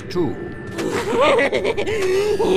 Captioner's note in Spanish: Se Ríe